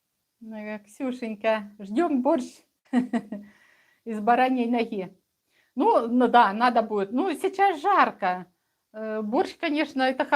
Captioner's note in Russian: смех